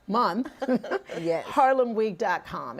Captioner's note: laughter